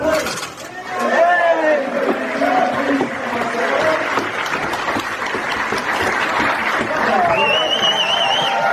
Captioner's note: rapturous applause